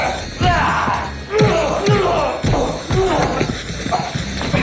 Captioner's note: punches thud